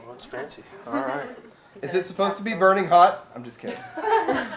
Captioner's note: laughs